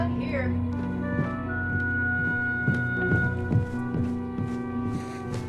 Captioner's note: footsteps thumping